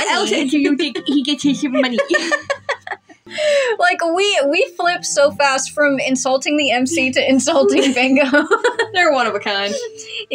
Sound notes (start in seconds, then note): 0.0 laugh; 3.2 inhale; 6.8 laugh; 6.8 giggle